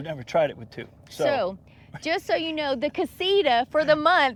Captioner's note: laughs